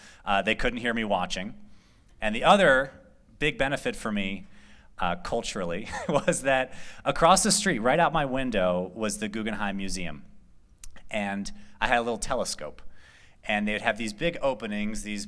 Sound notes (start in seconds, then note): 5.8 laughter